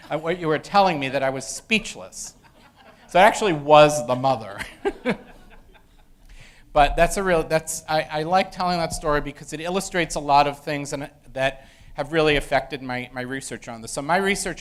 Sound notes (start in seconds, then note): 4.5 laugh